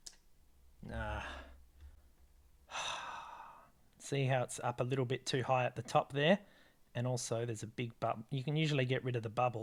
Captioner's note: sigh